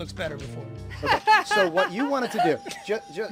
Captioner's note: laughing